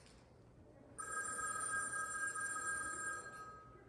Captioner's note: phone rings